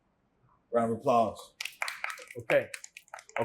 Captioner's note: applause